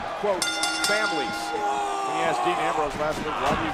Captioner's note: bell dings